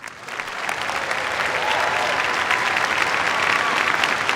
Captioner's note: cheers, applause